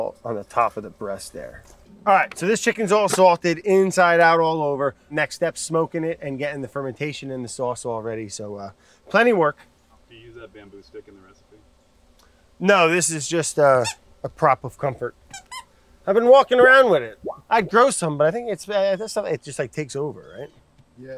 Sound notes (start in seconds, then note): 15.3 squeaky noise